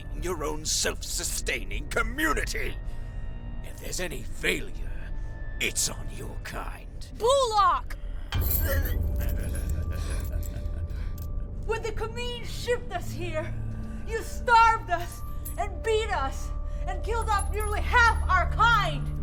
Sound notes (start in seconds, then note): 8.8 Brocheet laughs; 9.1 gags